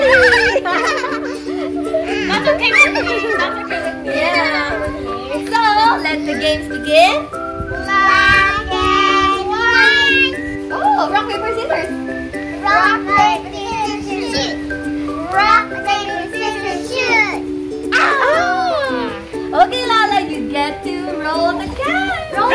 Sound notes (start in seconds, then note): 0.0 laughing; 7.3 foreign language 00:00:48